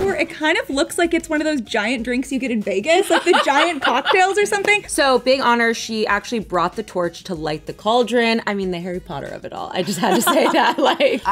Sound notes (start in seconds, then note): 3.0 laughs; 9.8 both laughing